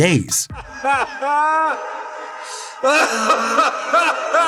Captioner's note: laughter